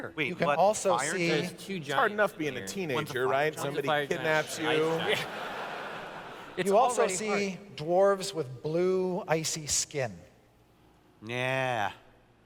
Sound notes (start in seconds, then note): 4.8 laughter